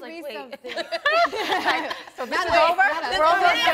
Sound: all laughing

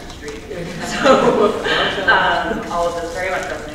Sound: laughing

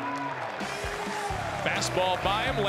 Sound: applause

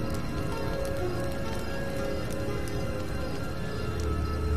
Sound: eerie music; crickets chirping

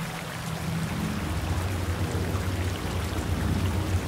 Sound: water flowing in

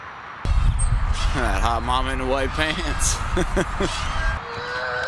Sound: laughs

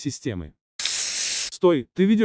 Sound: sounds of a spray can

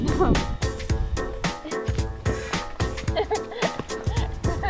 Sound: laughing

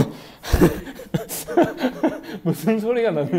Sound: hehehe

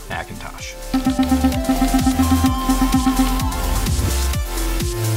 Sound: computer blips; electronic music

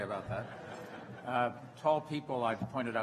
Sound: laughter

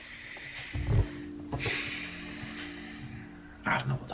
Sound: sighs

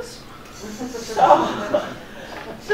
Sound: audience laughing

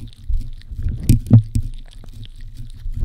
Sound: lick lick lick lick lick lick lick lick lick lick lick lick

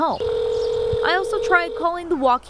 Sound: nat pop of phone ringing

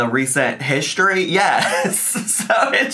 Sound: laughing

